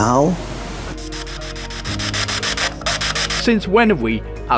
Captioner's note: radio Static